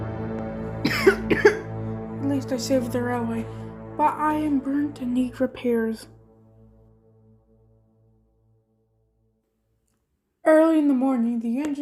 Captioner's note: coughs